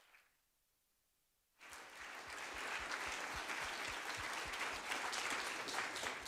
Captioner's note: applause